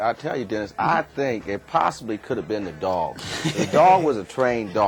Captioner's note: laugh